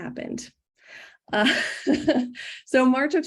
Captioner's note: laughs